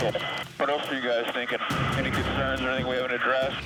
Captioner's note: man On Radio